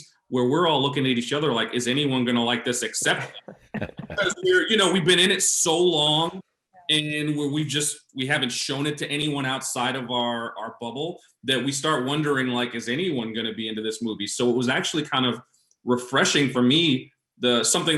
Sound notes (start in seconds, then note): 2.6 chuckling